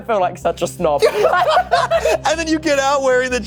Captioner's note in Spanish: risas